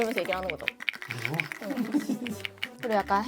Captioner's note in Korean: 딸깍 / 딸깍